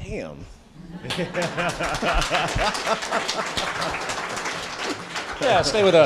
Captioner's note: applause